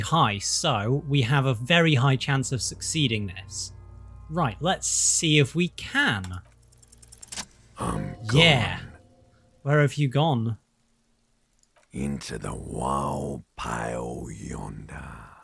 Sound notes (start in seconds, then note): 6.3 roll SFX